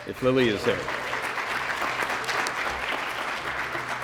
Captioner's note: applause